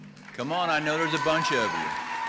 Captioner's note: audience applauding and cheering